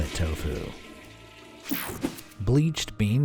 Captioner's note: toilet flushing